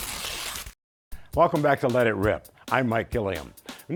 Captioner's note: paper tearing